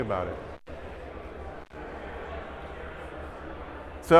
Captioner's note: audience chattering